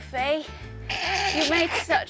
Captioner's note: laughs